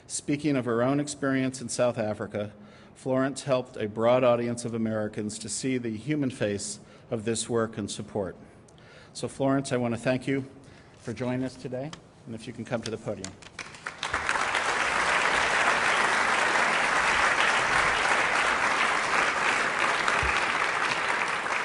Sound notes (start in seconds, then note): 16.7 applause